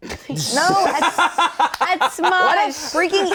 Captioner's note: Shayne laughing